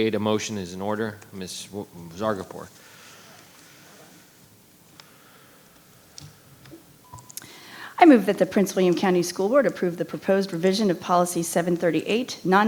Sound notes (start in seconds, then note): 6.8 microphone beeping